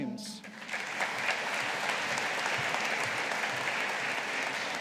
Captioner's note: audience applauding